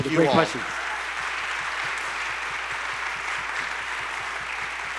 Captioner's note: people clapping